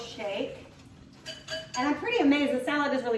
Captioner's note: dish clinks